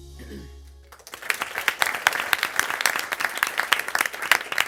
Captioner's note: crowd applauds